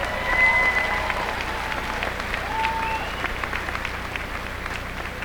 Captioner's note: applause